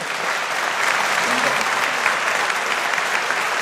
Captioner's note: audience applauding